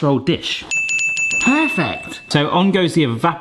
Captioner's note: bell dinging